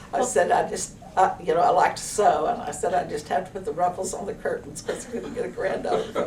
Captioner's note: laughter